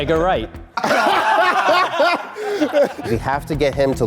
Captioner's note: group laughs